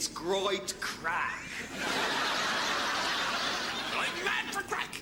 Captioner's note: audience laughs